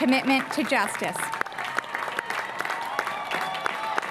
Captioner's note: applause